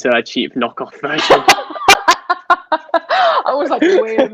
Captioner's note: both Laughing